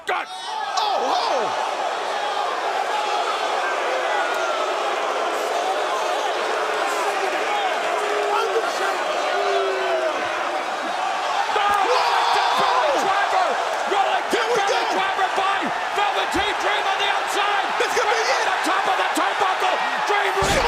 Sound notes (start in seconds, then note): 3.5 crowd cheering